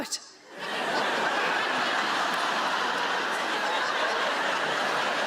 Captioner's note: audience laughs